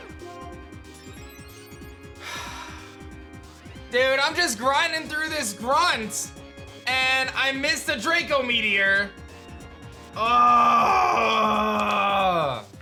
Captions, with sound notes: (sighs) Dude, I'm just grinding through this grunt and I missed a Draco Meteor. (grunts)